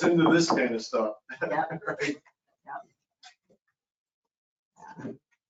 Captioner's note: laughing